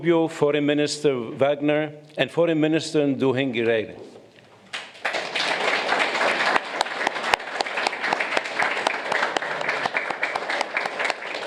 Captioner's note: applause